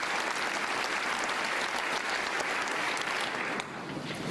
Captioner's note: applause